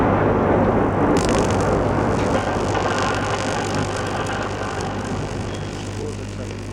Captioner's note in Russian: продолжительный звук тока